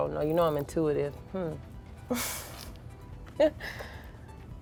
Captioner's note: laughing